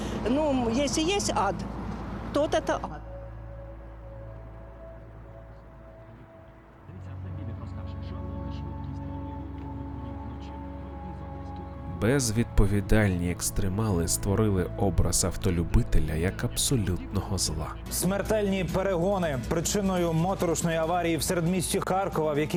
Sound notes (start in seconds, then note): 6.8 the sound of news reports moons from the car